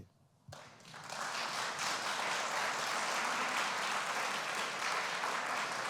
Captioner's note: applause